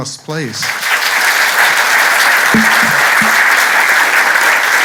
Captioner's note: applause